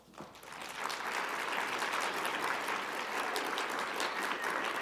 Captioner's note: audience applauding